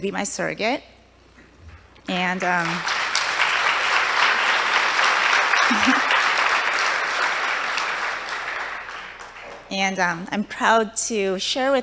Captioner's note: applause